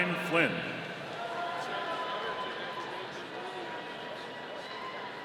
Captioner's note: audience cheering